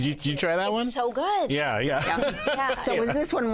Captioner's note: laughs